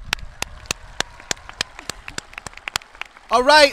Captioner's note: audience clapping